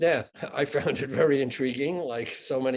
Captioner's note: chuckling